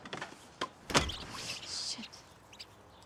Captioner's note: mouse squeaks